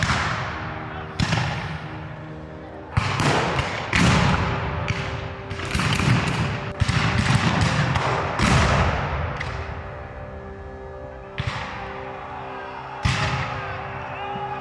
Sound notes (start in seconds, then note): 3.0 guns fire; 3.0 cannon fires